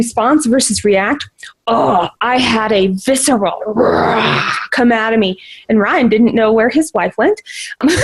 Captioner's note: roars